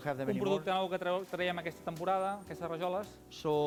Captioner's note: non-english speech